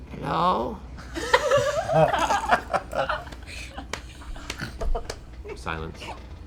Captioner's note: laughter